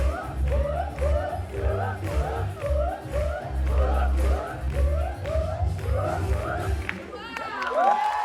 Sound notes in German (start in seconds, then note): 1.4 jubel; 6.7 applaus; 6.8 jubel